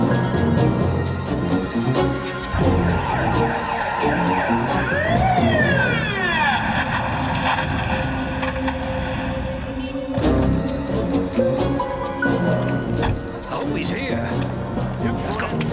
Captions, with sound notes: (siren wailing) - Hopefully he's here.